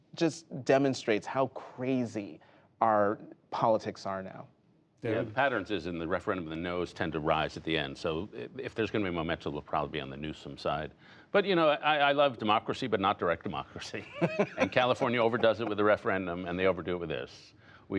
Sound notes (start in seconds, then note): 13.9 laughter